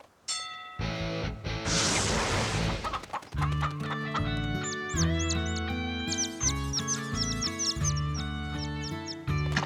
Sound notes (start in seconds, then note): 0.3 bell dings; 2.6 clucking; 5.3 chirping